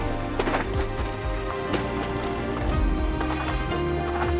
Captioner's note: tires scuffle around berm; tires skidding